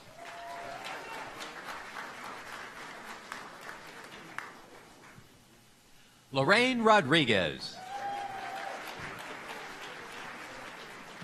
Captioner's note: applause